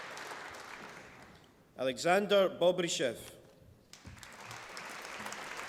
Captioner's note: applause